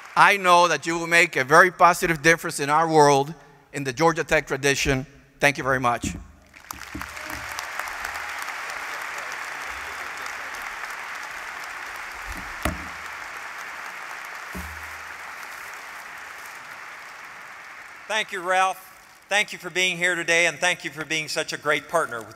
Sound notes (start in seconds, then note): 7.1 applause